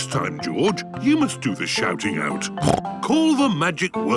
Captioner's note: snorts